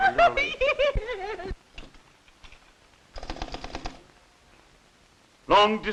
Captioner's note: laughs